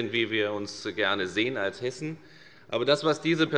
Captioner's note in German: none